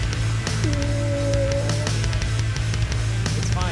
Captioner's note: whimpers